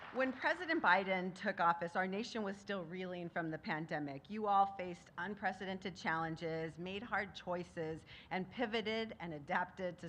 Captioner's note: applause